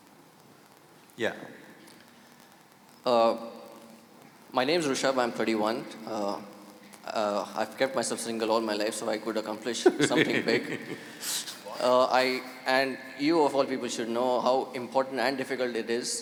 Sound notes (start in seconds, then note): 9.8 Sadhguru laughs